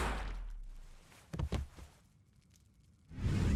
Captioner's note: gunshot; thud; whoosh